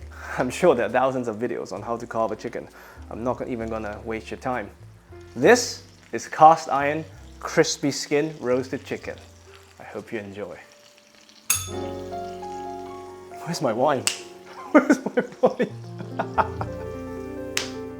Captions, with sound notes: I'm sure there are thousands of videos on how to carve a chicken. I'm not even gonna waste your time. This is cast iron crispy skin roasted chicken. I hope you enjoy. [bell rings] Where's my wine? Where's my wine? [laughing]